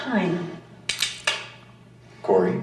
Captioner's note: gun cocks